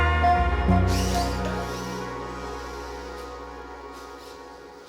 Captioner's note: robots whirring